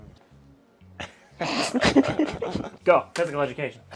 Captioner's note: chortles